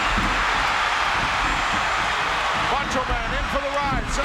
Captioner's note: audience cheering